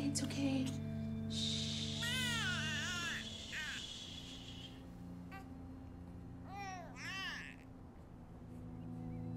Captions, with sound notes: It's okay, shh. (baby crying)